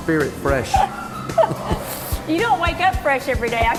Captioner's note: laughter